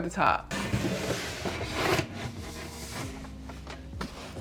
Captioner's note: shelf whooshing